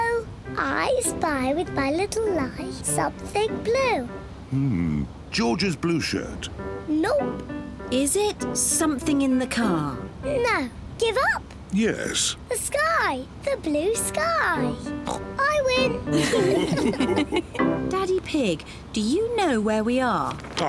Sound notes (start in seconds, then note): 15.0 oinks; 16.0 all laugh